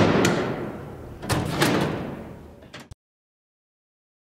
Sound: doors locking

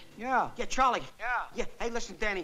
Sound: on phone

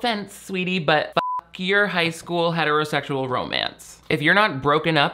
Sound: beep

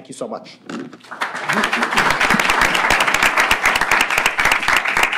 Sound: applause

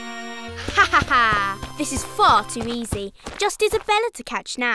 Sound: laughs

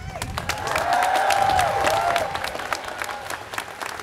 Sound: students cheering

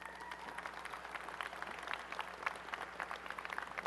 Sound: applause

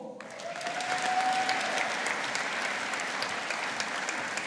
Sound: audience applauding

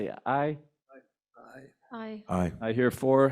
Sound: board members call aye

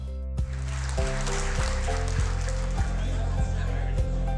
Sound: audience applauds; calm music

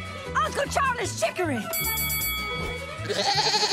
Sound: bell ringing; bleating

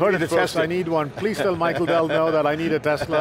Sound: laughs

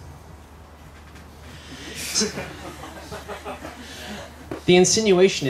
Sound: laughter

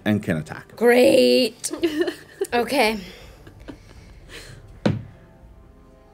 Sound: dice thuds

